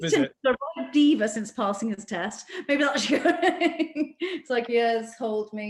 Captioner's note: laughs